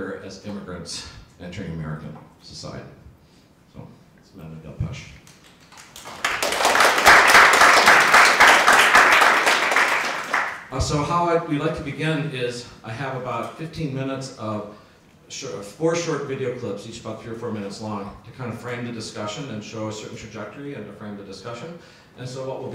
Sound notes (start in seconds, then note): 5.6 audience applause